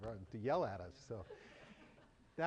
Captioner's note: laughter